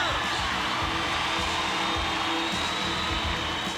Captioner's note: crowd cheering